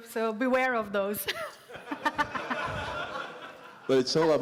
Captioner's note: laughter